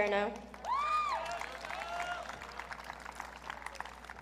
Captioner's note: audience cheering